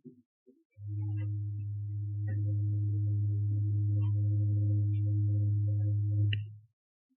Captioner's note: ship horn blows